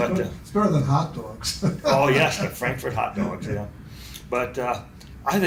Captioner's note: laughs